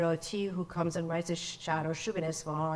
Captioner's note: speaks in foreign language